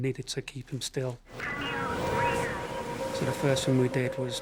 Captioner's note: radio vocalizing